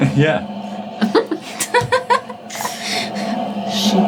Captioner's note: ladies laughing